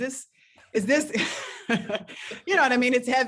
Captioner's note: laugh